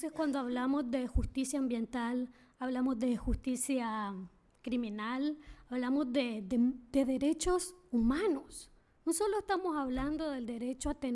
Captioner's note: speaking spanish